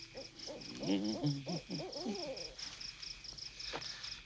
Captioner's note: owl hooting